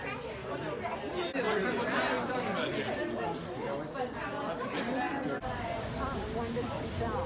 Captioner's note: background chatter